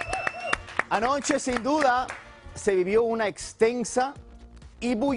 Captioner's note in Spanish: aplausos